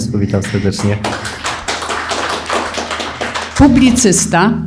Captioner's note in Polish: oklaski